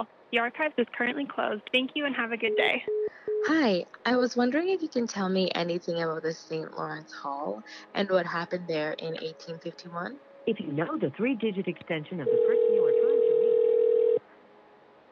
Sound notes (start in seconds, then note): 2.4 phone beeps; 12.2 phone rings